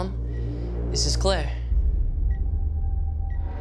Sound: beeping; ominous music

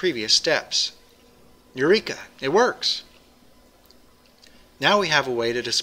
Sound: pause

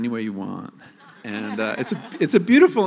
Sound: laughter

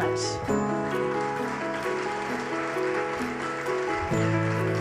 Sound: audience applauds

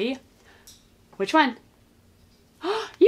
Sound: gasps

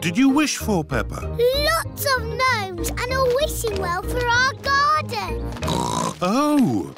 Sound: oinks

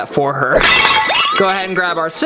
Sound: glass breaks

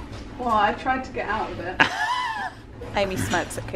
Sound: laughs

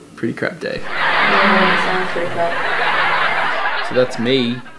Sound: laughing; others murmur in agreement

